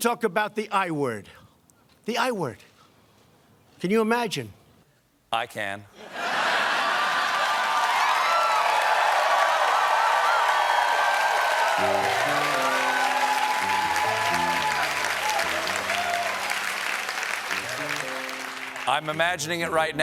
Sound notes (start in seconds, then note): 9.2 cheers and applause